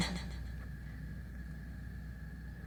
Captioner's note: crickets Chirping